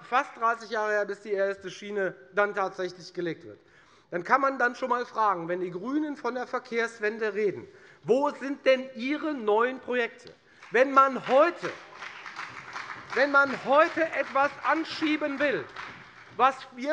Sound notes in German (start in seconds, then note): 10.5 Beifall bei der FDP sowie bei Abgeordneten der SPD und der LINKEN